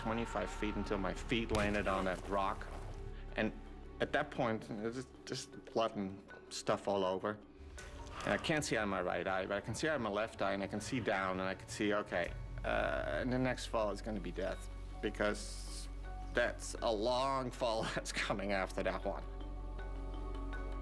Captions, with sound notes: [ SCREAMING ] ...AND FELL ABOUT 25 FEET UNTIL MY FEET LANDED ON A ROCK. AND AT THAT POINT, JUST -- JUST BLOOD AND STUFF ALL OVER. AND I CAN'T SEE OUT OF MY RIGHT EYE, BUT I CAN SEE OUT OF MY LEFT EYE AND I CAN SEE DOWN. AND I CAN SEE, "OKAY. THE NEXT FALL IS GONNA BE DEATH." BECAUSE THAT'S A LONG FALL THAT'S COMING AFTER THAT ONE.